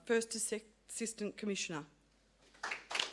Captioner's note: applause